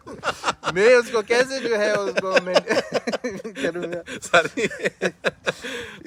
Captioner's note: laugh